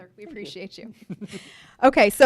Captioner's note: chuckles